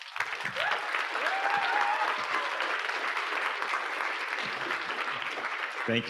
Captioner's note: audience applauding; audience cheering